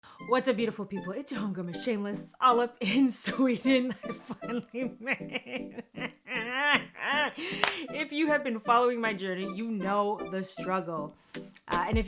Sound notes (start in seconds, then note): 6.4 stammers